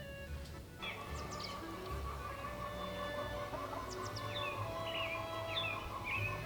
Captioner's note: chickens cluck in distance